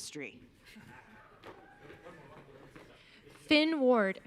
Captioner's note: audience cheering